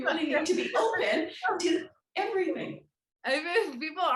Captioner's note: laughs